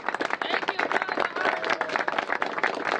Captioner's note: applause